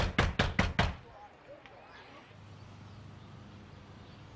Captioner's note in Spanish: Toques en la puerta